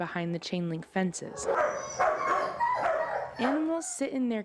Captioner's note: barking